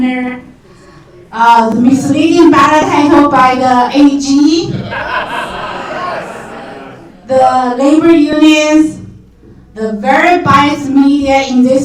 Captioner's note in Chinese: 笑声